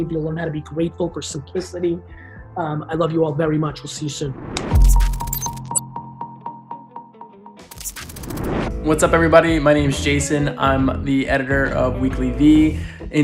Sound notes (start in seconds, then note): 4.4 vibrant electronic music; 4.7 air whooshing; 6.3 beeping; 7.9 air whooshing